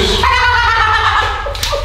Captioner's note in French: rires